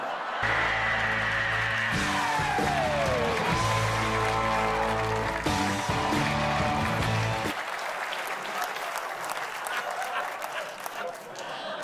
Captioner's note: laughter